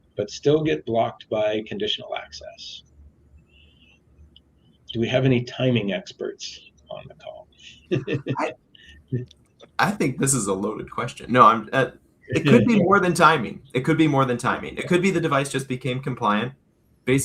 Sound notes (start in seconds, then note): 7.5 laughs